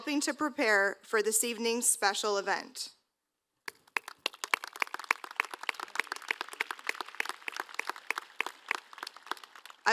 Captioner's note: applause